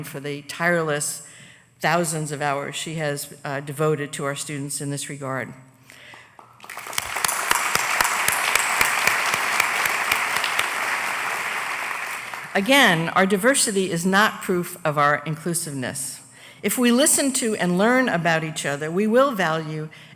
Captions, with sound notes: FOR THE TIRELESS THOUSANDS OF HOURS SHE HAS DEVOTED TO OUR STUDENTS IN THIS REGARD. [ APPLAUSE ] AGAIN, OUR DIVERSITY IS NOT PROOF OF OUR INCLUSIVENESS. IF WE LISTEN TO AND LEARN ABOUT EACH OTHER, WE WILL VALUE